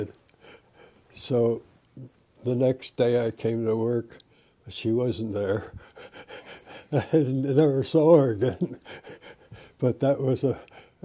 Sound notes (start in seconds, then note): 8.4 laughter